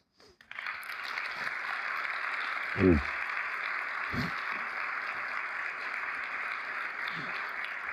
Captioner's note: applause